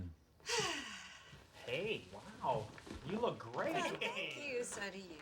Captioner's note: sighs